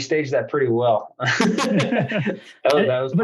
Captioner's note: laughs